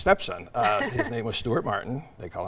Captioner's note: laughing